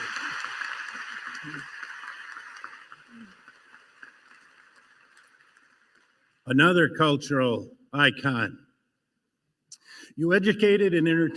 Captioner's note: applause